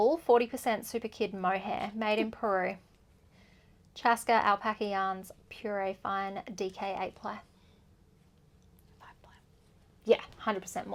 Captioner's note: whispered five ply